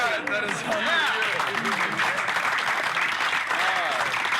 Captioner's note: crowd cheering and applauding